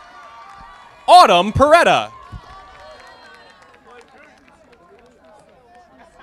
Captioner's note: audience applauding